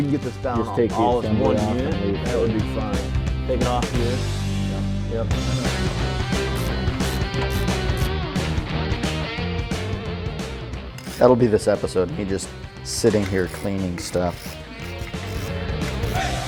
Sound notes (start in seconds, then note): 6.0 upbeat rock music; 7.3 wrench cranking